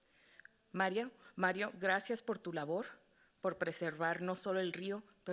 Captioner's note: moderator speaking Spanish